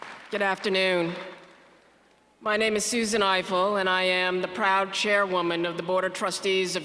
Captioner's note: applause